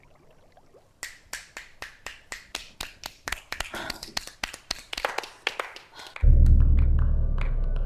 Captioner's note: snapping & applause